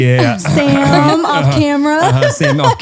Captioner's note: coughs